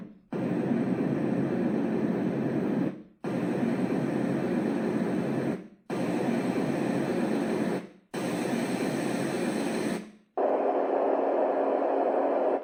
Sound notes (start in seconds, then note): 1.4 white noise